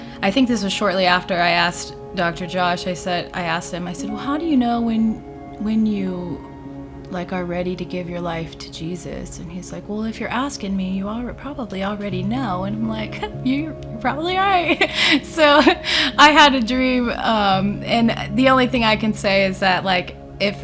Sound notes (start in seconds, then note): 14.7 chuckles